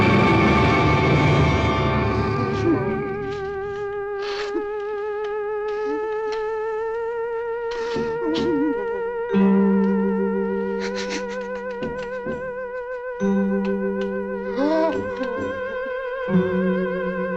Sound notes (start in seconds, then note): 4.7 Papers sobbing and whimpering; 14.4 gasps